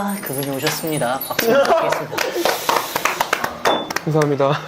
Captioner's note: clapping in admiration